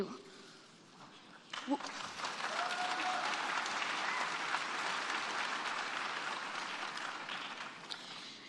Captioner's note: applause